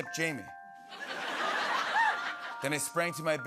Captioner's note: laughter